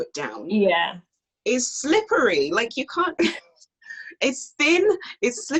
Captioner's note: laughs